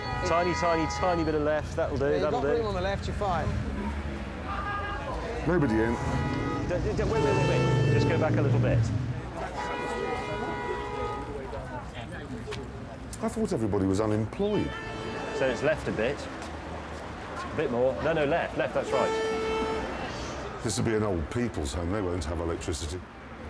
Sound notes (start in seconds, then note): 9.8 car horns blaring